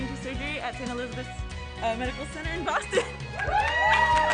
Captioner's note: cheering